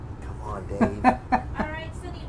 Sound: laughs

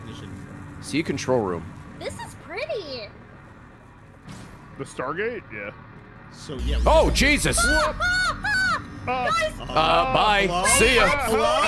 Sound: screams

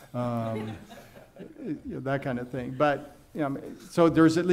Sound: laughing

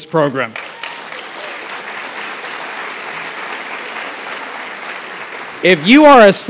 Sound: applause

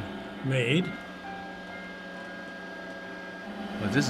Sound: machine whirs

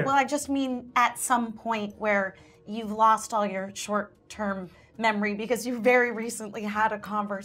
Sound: none

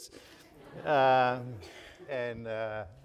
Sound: audience laughing

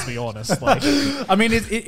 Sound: laughing

